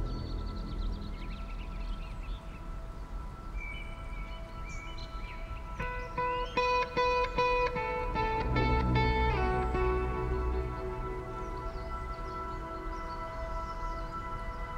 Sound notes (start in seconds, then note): 0.9 birds Chirping